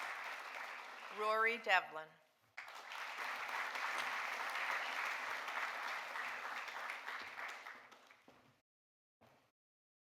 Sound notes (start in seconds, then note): 2.6 audience applauding